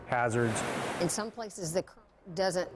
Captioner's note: sound of water